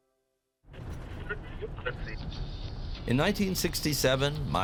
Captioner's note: radio tuning